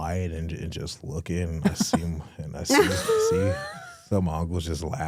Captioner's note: hosts laughing